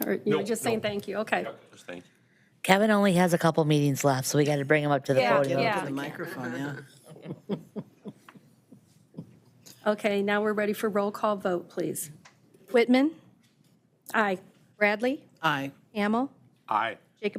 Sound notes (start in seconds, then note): 7.0 member chuckling